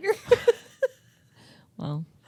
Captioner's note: both laughing